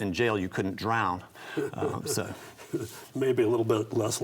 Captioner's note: chuckles